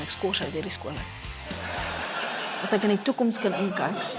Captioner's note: laughter